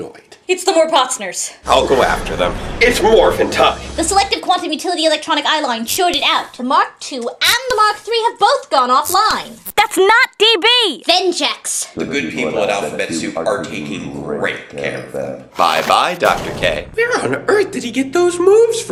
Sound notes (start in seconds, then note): 15.5 portal Opens